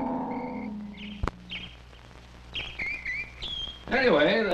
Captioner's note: birds tweeting